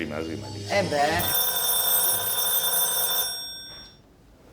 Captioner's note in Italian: telefono squilla